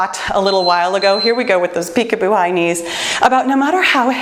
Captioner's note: timer beeps